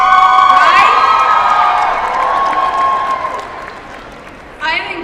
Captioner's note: applause